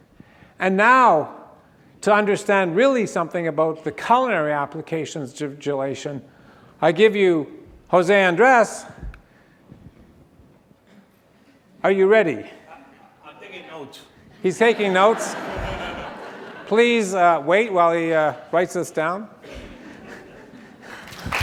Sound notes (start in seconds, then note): 14.3 laughter; 20.8 applause